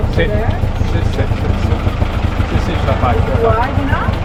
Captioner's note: speaking Italian